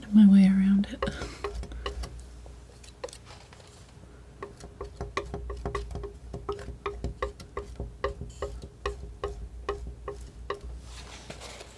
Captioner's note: tapping on knife